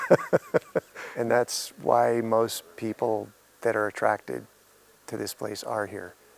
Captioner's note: laughing